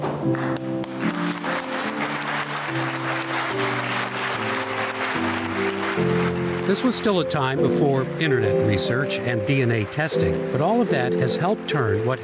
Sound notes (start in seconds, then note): 0.5 audience applauding